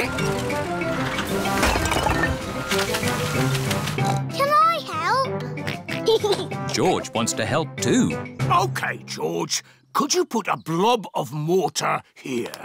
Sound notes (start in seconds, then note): 4.0 oinks; 5.6 oinks and giggles